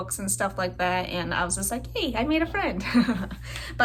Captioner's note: laugh